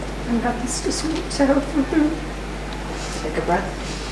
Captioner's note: sobbing